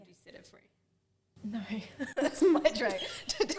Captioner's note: laughs